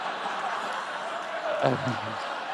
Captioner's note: laughter